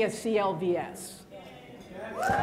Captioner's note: applause